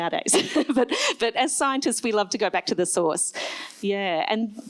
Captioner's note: laughs